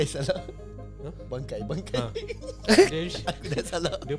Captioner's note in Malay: ketawa